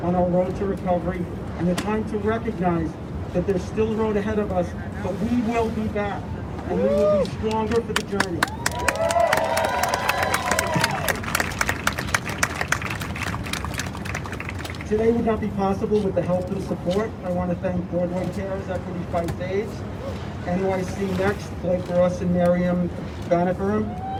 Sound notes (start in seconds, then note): 8.2 crowd cheers